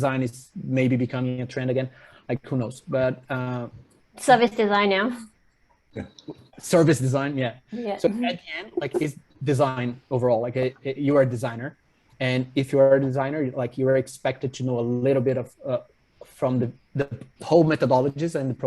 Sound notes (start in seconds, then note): 8.0 chuckles